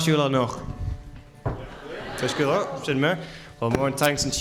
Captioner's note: audience replies